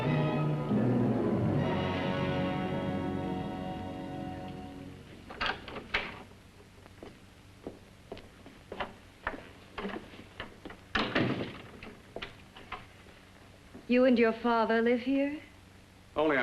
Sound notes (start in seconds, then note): 0.0 ominous music; 5.1 door opens; 10.9 door closes & locks